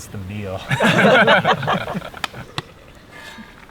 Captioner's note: all laugh